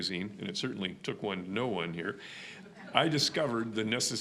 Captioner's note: audience laughing